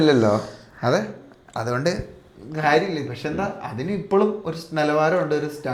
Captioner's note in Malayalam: ചീറ്റുന്നു